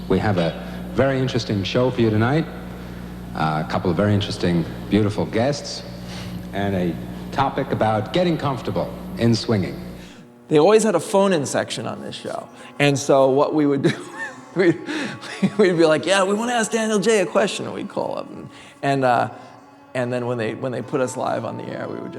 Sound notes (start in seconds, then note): 13.7 laughs